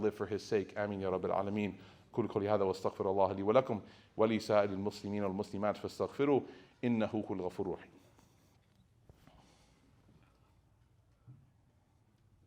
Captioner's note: speaking Arabic